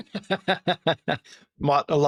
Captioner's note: laughing